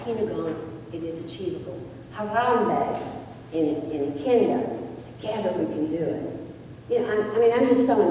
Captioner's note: foreign word spoken